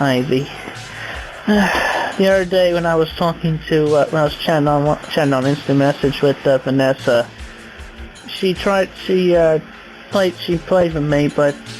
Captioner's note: sigh